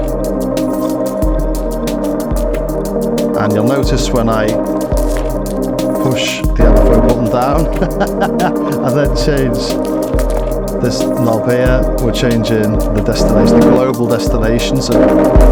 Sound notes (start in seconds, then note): 6.6 laughs